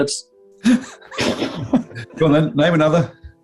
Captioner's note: giggling